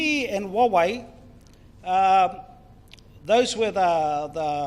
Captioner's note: speaks in foreign language